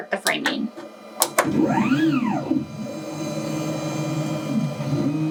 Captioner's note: machine whirring